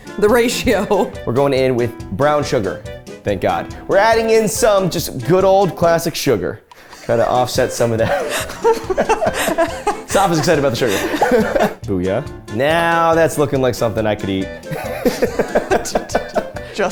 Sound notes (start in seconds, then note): 6.9 laugh; 16.1 laughs